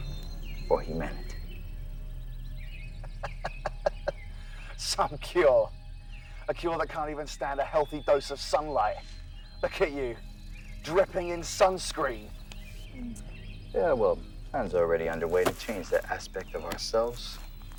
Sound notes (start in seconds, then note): 2.9 soldier laughing; 2.9 intense music continues